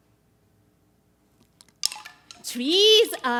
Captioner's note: wooden chimes